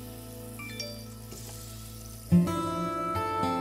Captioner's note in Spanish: Aviso de mensaje